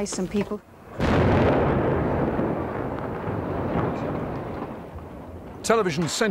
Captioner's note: explosion